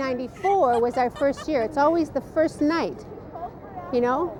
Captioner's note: laughs